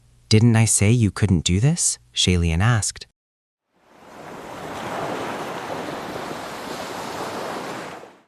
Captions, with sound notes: Didn’t I say you couldn’t do this?” Xie Lain asked. [Ocean waves.]